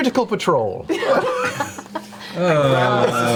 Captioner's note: all laugh